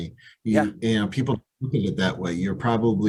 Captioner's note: call briefly cuts out